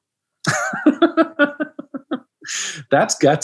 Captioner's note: laughs